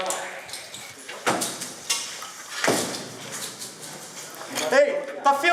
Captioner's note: doors slamming